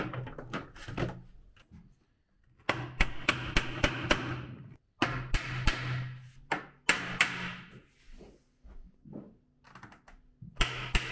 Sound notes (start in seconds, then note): 3.0 mallet pounding